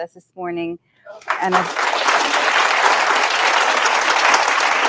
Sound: audience applauding

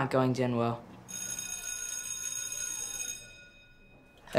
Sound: school bell rings

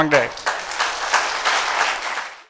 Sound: applause

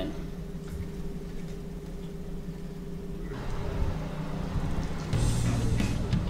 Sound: air conditioner roaring

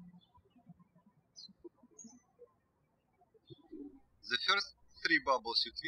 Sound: birds chirping

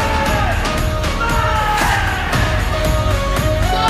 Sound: shouts

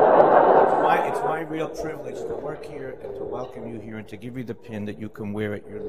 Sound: laughter

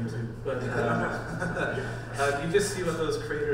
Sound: panel laughs

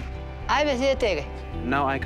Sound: speaking foreign language

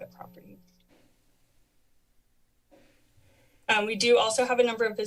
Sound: pause

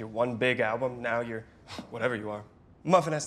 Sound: scoffs

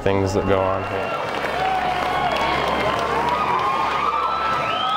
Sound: cheering and applause

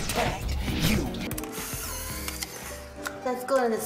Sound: camera shutters

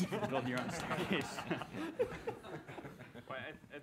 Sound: laughter

